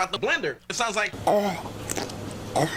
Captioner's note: pufferfish eating carrot